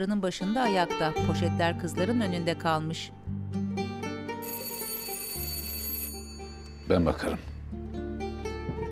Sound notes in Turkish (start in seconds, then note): 0.4 Müzik - Duygusal; 4.4 Kapı zil sesi; 8.1 Müzik - Duygusal